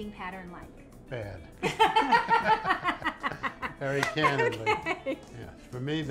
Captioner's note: laughter